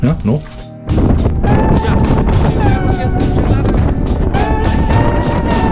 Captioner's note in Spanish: viento